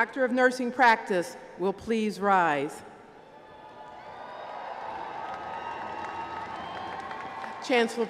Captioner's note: applause